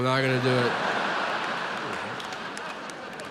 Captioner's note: audience laughs